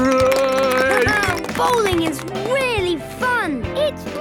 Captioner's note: clapping, laughing